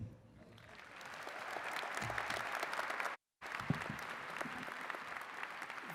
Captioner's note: attendees cheering and clapping